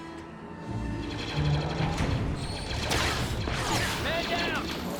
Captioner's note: rifles firing